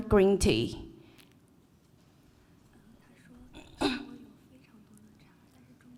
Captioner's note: cough